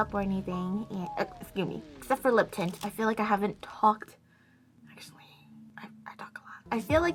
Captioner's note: whispers again